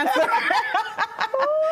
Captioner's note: both laughing